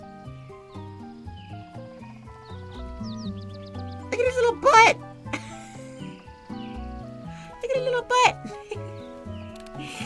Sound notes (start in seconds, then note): 5.2 laughs